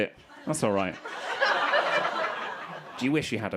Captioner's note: crowd laughing